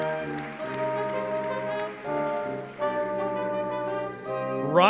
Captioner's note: audience clapping